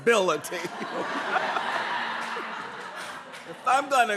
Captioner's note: laughter